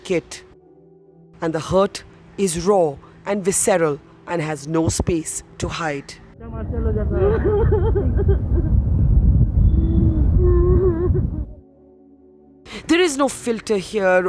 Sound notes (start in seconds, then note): 7.2 crying